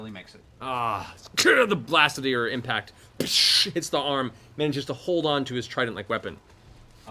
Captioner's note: bang